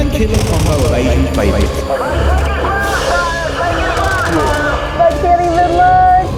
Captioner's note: gunshot blaring